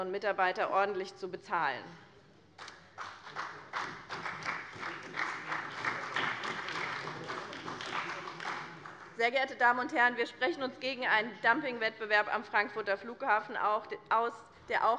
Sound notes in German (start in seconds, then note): 2.6 Beifall bei dem BÜNDNIS 90/DIE GRÜNEN und der CDU